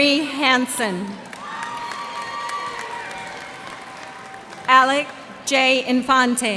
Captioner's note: cheers and applause